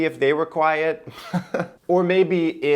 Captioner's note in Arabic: يضحك